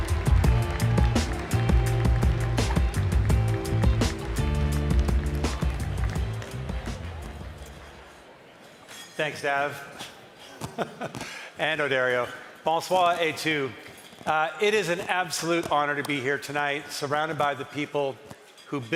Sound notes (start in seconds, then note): 3.9 cheering and applause